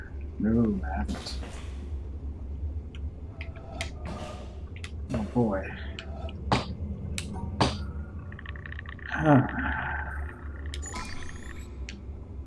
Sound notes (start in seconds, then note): 9.1 sighs